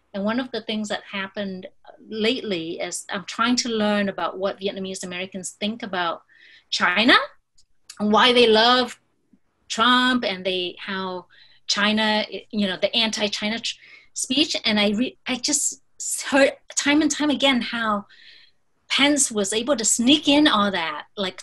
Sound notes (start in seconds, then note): none